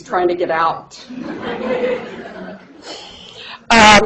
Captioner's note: laughter